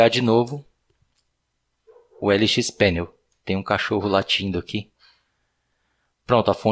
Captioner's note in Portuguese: tem um cachorro latindo aqui